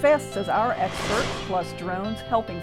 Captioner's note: whooshing